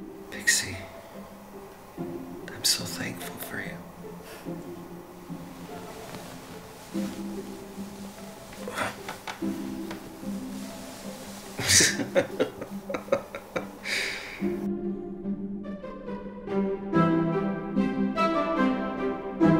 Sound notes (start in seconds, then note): 5.4 peppy music; 11.6 laughter; 14.7 peppy music